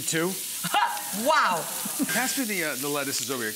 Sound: laughs

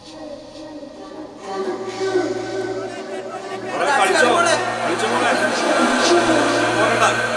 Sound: crowd cheering

